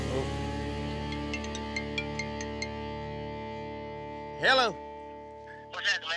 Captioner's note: cell phone rings